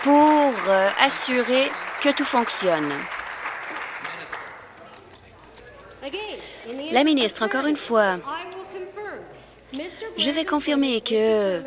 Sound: some Applause

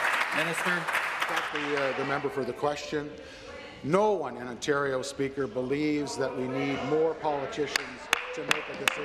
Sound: applause

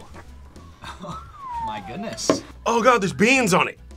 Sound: laughs; chuckles; whistles

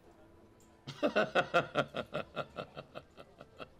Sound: laughs

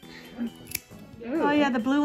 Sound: crisp ass snip

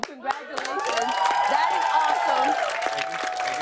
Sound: cheers and applause

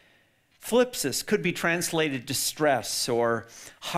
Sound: speaks in foreign language

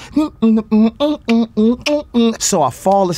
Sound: DeStorm starts beatboxing

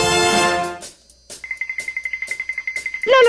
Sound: tip-toe soundz

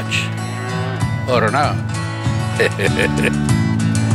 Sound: chuckles

